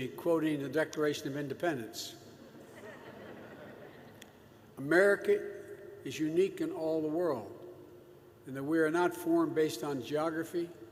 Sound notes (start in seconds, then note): 2.4 laughter